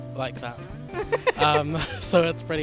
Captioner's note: laughter